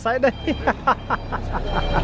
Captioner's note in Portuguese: risos